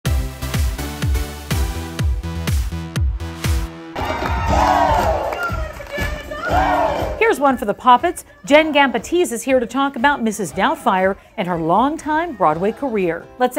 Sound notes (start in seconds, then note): 0.7 energetic music; 3.9 cheering and music